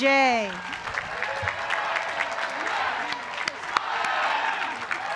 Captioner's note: applause